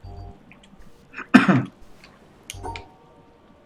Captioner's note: coughs